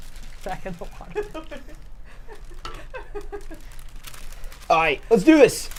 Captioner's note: laughs